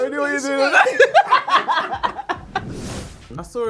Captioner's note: laughing